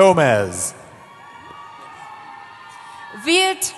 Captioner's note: cheering